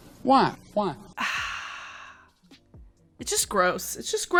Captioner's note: sighs